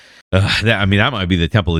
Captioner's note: uh